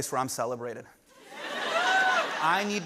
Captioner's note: laughter